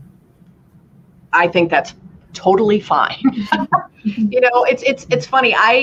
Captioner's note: laughter